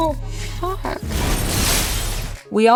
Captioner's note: explosion